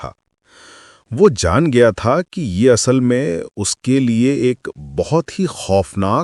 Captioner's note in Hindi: गहरी सांस लेने की आवाज़; अचानक ज़ोर से सांस लेने की आवाज़